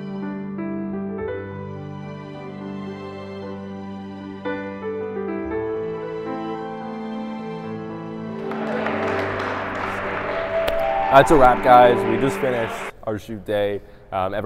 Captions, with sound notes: (lighthearted music) (audience applauding) - It's a wrap guys. We just finished our shoot day.